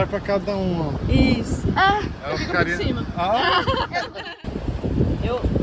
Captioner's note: laughs